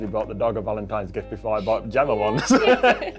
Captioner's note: laughing